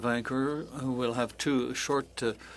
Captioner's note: speaking French